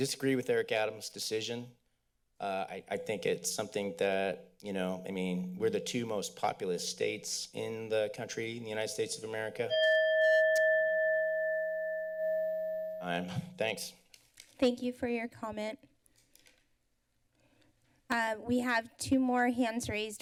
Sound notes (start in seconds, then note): 9.6 clicks tongue; 9.7 bell chimes